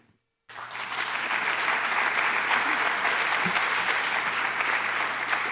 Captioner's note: applause